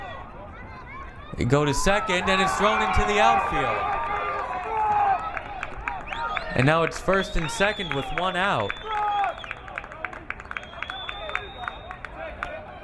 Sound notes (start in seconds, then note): 9.1 crowd applauding